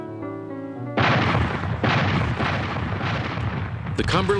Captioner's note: cannon fire